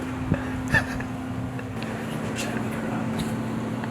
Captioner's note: laughs